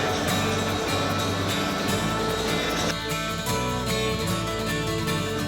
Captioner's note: machinery whirs and clangs